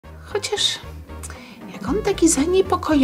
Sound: Violetta's stomach growling

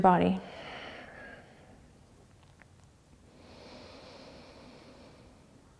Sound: breathing

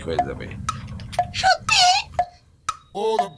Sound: female voice

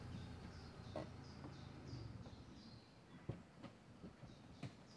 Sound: bird song

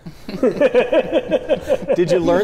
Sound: both laugh

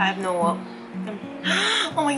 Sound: gasp

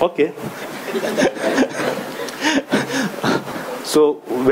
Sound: audience laughing

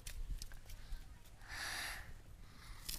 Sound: Michael gasps

